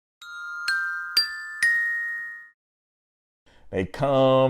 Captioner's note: chime crescendos